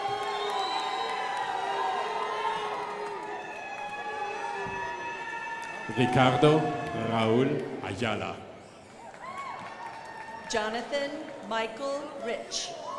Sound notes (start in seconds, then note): 8.3 crowd applauding; 12.8 crowd applauding